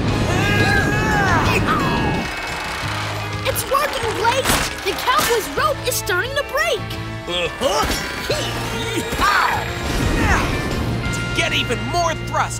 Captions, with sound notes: [grunting] It's working Blaze, the cowboy's rope is starting to break. [grunting] To get even more thrust,